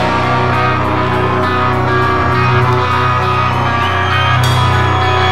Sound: audience cheering

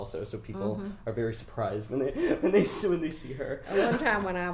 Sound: laughing

